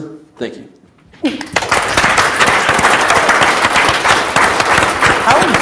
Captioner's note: audience applauds